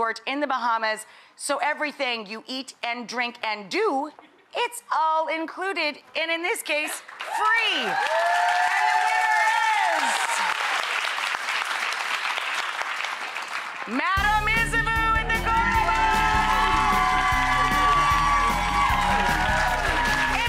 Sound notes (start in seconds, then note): 7.2 audience cheering; 15.3 audience cheering; 15.4 spooky jazz music